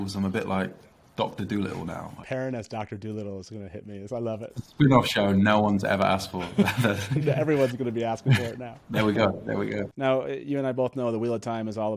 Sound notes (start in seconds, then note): 6.3 all laughing